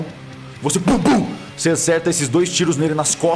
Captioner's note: shot sounds